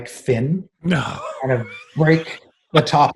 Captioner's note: laughs